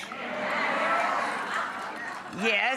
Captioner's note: audience cheers